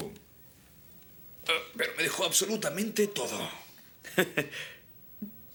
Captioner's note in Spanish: risos